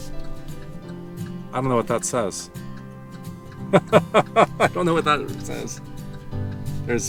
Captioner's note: laughs